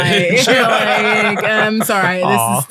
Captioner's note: laughing